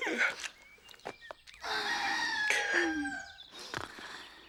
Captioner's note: cock crows